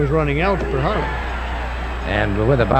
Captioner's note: audience cheering